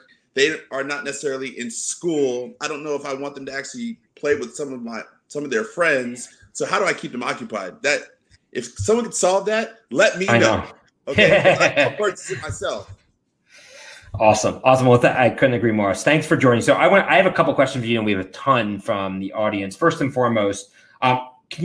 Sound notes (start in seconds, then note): 11.1 laughs